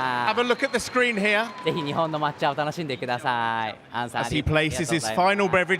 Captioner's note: cheers and applause